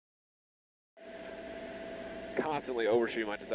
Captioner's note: engine humming